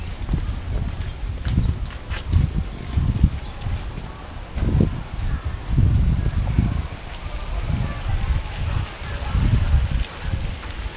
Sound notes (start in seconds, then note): 1.9 sounds of many people talking in the distance